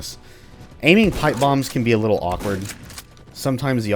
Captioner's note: shotgun blasting